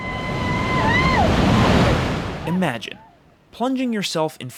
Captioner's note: screams